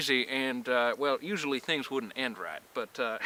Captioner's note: none